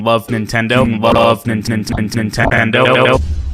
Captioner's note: Glitch